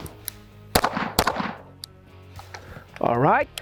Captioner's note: gun popping